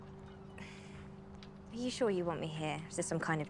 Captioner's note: sighs